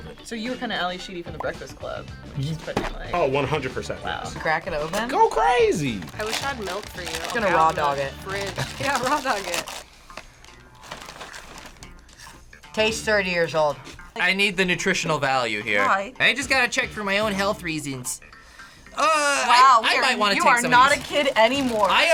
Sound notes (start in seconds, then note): 10.4 bag rustling